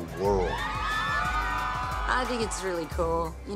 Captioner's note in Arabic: هتاف